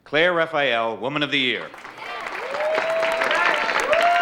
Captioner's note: audience cheering and applauding